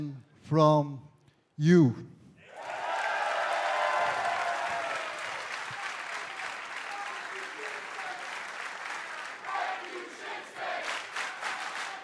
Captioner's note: crowd cheering